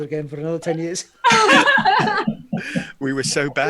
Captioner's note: all laugh